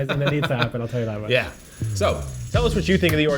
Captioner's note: laughs